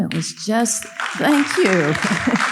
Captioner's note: audience applauding